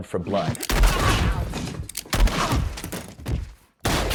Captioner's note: gunshots banging